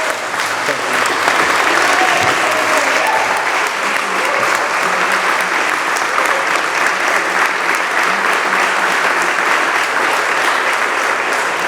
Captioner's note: applause